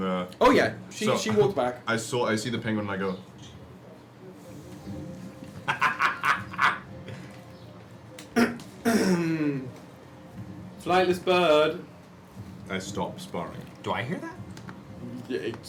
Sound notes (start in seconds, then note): 5.5 laughs; 8.8 clears throat